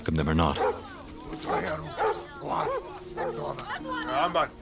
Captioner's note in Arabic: الصوت المنطوق البدوي